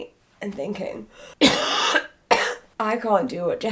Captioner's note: coughing